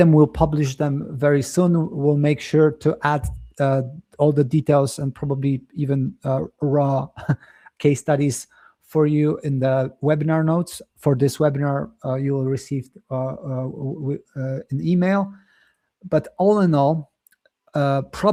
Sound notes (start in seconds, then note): 7.1 chuckles